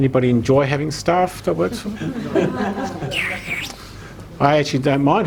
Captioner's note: laughing